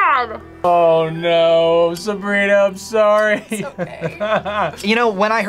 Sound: laughs

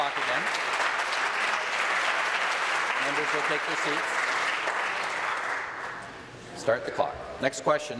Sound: applause

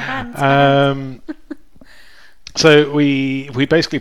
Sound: chuckles

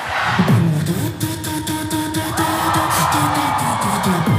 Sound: beatboxing

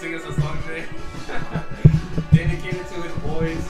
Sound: laughing

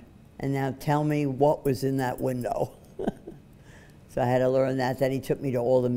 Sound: laughs

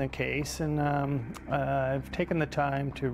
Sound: voiceover

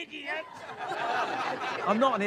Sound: crowd laughs

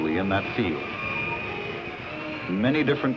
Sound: table saw cutting

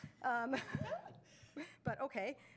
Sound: panelists chuckle

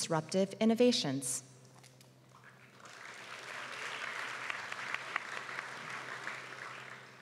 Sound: applause

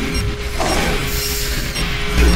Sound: grenade bleeps

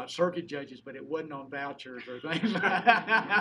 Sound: laughing

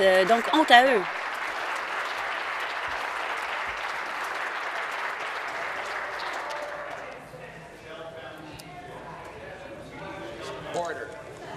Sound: applause

